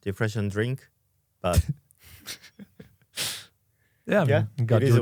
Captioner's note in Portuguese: risos